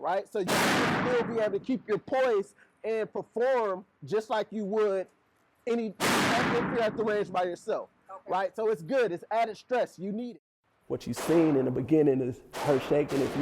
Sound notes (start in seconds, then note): 6.0 gunshot booms drowns out